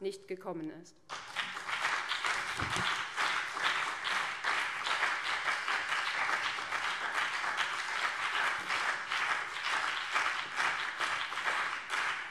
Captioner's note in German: Anhaltender Beifall BÜNDNIS 90/DIE GRÜNEN und CDU